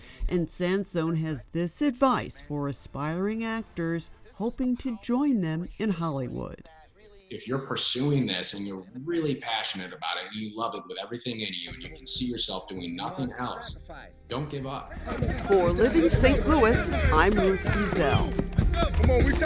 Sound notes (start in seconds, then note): 14.9 players cheering